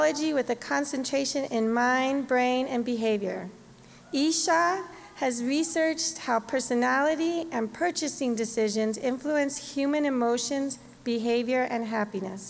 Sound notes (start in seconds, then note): none